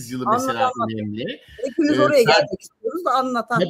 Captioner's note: kahkaha